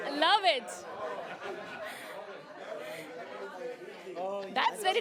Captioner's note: chatter